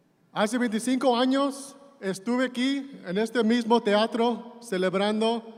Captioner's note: speaking in Spanish